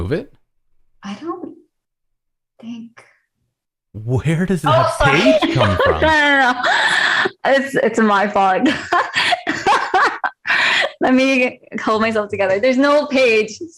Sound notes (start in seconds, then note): 8.6 laughter